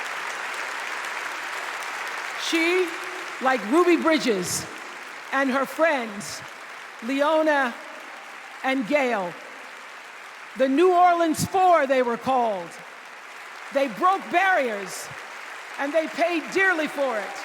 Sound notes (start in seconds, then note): 2.8 applause